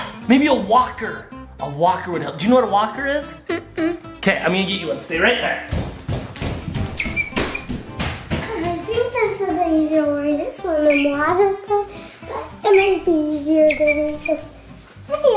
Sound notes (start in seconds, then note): 5.6 shoes slamming